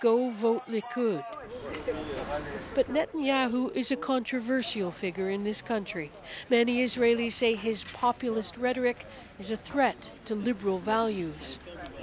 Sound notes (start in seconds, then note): 1.9 speaking foreign language